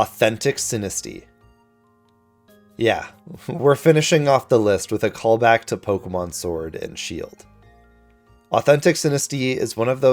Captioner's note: sighs